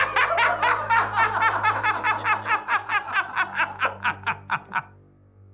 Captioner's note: all laughing; laughing